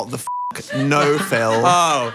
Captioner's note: beeps